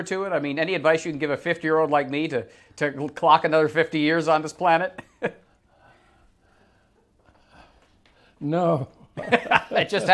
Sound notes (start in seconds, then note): 4.9 chuckles; 9.0 laughs